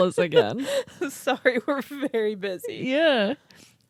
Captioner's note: laughing